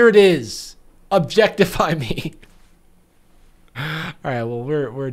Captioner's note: laughs